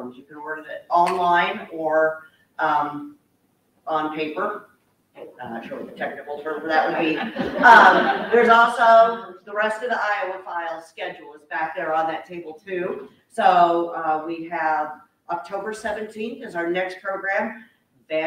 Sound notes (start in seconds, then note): 6.8 audience laughing